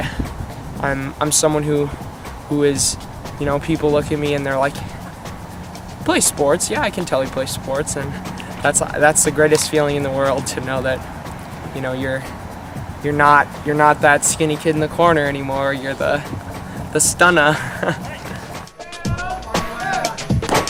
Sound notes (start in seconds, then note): 17.2 laughs